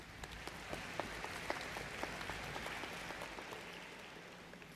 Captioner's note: applause